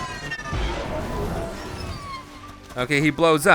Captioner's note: explosive sound